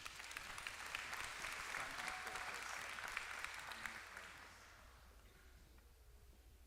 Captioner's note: applause